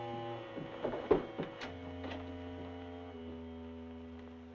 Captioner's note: door rattling